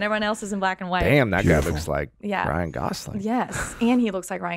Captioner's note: laughs